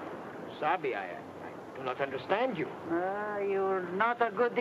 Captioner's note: speaks in foreign language